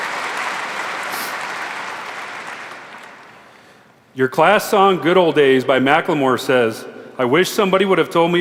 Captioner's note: applause